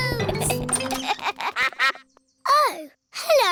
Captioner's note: giggling; quacks